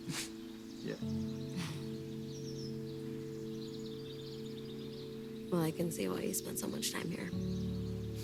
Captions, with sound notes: - Yeah. (Cassie chuckles) - Well I can see why you spend so much time here.